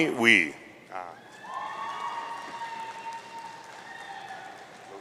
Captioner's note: audience cheering